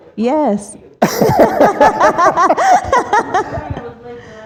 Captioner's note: laughter